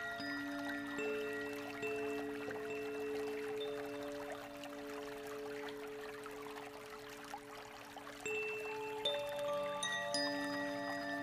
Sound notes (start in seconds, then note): 3.8 bells lightly chiming; 3.8 water babbling